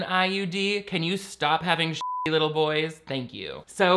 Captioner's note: beep